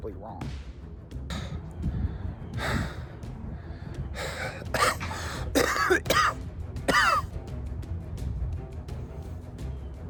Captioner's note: panting and breathing harder than usual